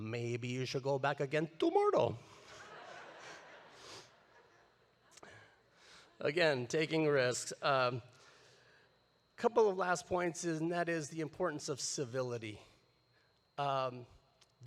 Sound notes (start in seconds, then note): 2.4 audience laughing